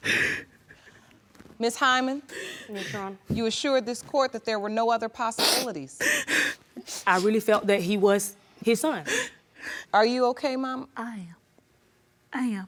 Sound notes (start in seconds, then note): 0.0 sobbing; 7.2 sobbing